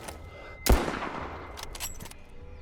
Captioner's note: gun bangs